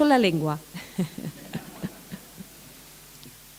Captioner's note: laughter